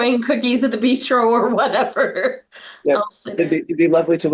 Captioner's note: laughs